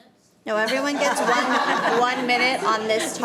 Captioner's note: audience laughing